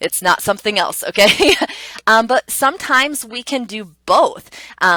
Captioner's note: laughs